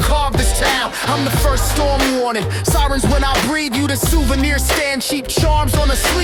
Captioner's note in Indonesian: echo FX